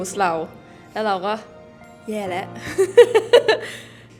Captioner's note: laughs